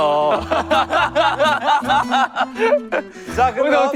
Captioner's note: hahahahahaha; chuckling